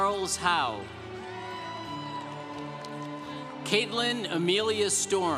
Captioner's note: congregation cheering